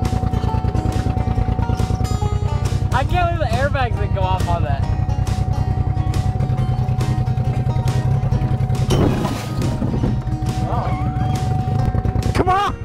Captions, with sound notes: - I bet the airbags would go off on that. (upbeat music) (vehicle engine roars)